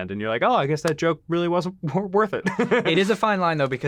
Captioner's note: laughs